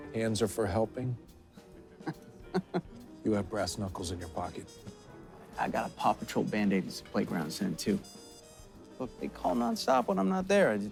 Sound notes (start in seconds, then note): 2.4 O'Donnell laughing